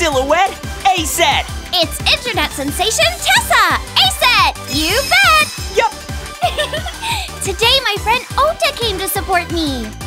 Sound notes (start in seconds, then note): 4.5 sparkle; 6.4 giggles